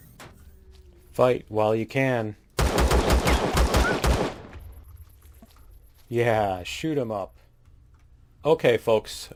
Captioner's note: gunshots